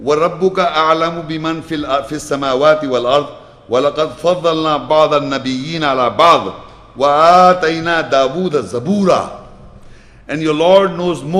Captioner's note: Arabic